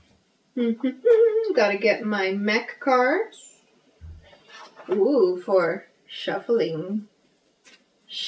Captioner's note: hums